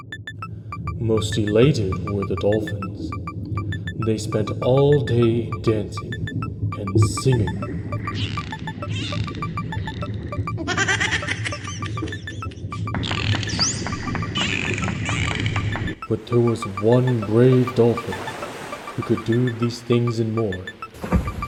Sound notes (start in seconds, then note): 8.2 dolphin sings; 10.5 dolphin laughs; 13.0 dolphin cheers